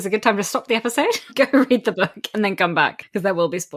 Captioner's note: laughing